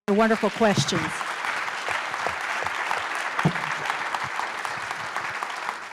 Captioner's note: applause